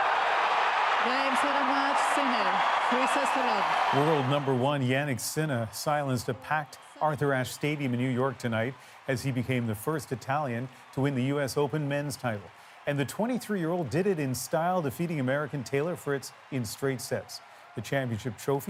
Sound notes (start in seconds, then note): 3.3 applause